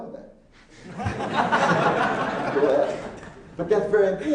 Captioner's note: laughing